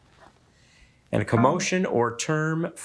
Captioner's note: buzzer beeping